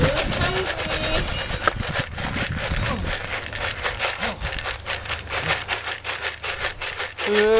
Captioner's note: shaking dogfood